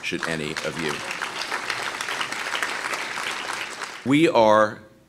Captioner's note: applause